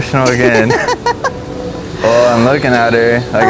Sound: laughs

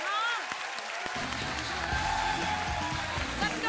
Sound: applause

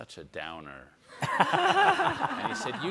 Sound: all laugh

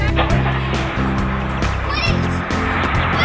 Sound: bus engine running

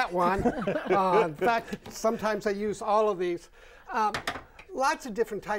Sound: laughing

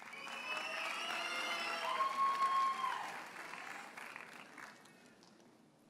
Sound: audience cheers and applauds

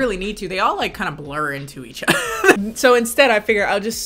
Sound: laughs

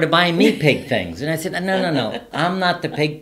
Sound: laughs

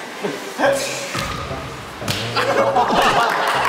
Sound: slap

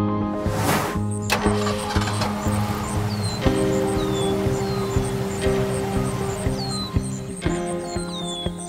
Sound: engine starting, birds chirping

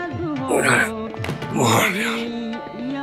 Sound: song playing over radio; Rohit grunts; song playing over radio

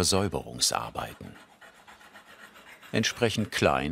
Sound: grinding noises

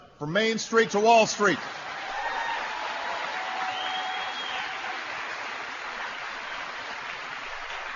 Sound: applause

